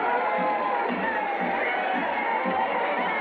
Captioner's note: people cheering